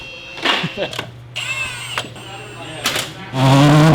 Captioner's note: chuckles; tool buzzing; race car revving